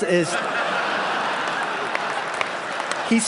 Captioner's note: laughter